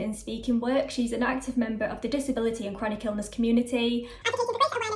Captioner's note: sped up talking